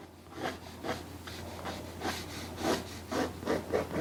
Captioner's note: pen scribbling